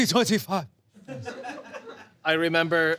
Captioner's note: audience laughs